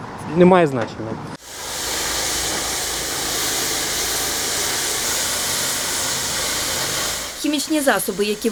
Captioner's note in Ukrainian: шум від змивання фарби